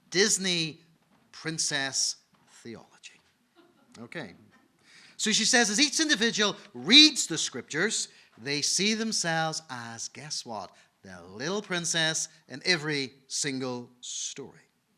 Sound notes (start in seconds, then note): 3.9 audience laughing